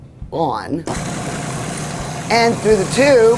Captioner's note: processor motor whirring